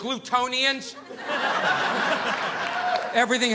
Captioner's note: audience laughing